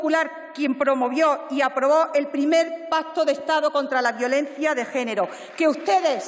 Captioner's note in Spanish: aplausos